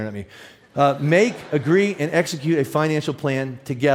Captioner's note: audience laughs